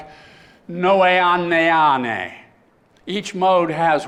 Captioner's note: speaking greek